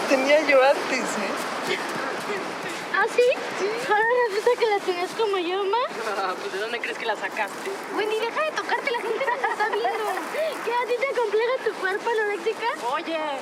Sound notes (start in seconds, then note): 2.6 speaking in Spanish